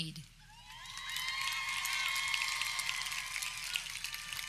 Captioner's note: audience cheering